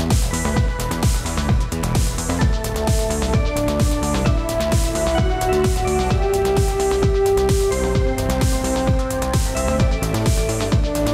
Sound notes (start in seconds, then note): none